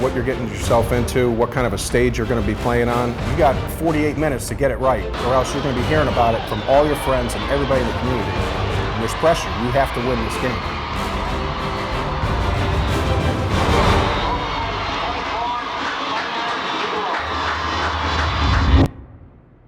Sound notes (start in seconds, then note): 12.1 crowd cheering